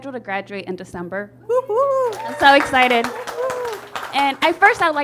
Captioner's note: audience applauds